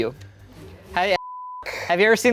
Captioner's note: beep